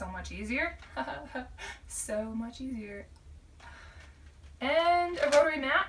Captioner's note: laughing